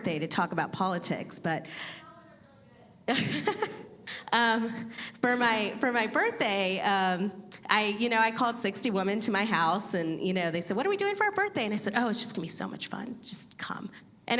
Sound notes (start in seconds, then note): 2.3 faint voice from the audience; 3.0 laughing